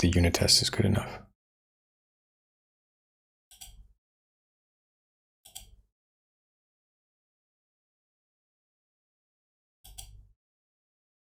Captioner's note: blank Audio